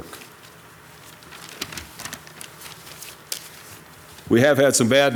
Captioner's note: paper rustles